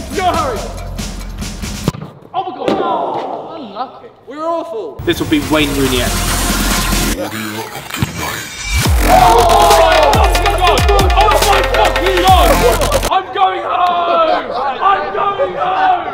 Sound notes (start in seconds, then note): 7.0 upbeat music; 8.8 all cheering